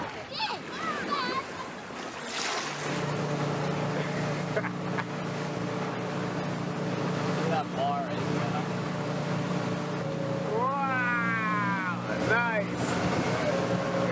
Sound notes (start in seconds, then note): 0.2 laughing